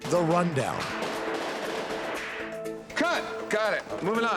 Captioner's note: guns shooting